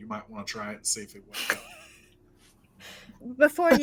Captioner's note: chuckles